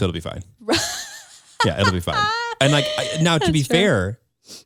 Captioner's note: laughs